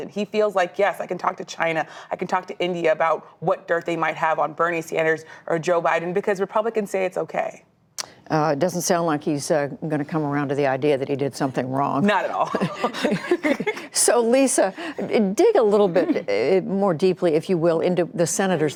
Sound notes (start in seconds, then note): 12.3 laughter